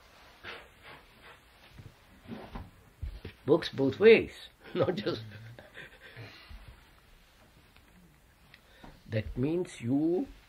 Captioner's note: laughs